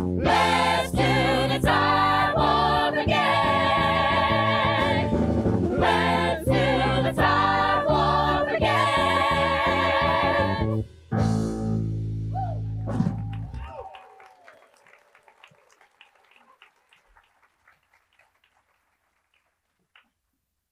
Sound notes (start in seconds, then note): 12.9 attendees applauding